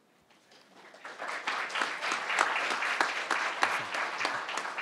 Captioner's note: crowd applauding